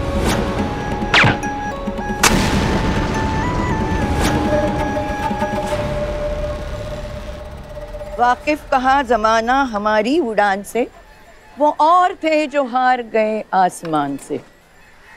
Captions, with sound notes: [fire cracker explodes] Now, these kids are going to teach me how to do this.